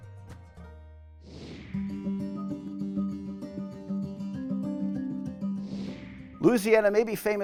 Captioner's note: screen whooshing; tranquil music